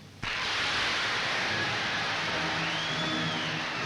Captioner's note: applause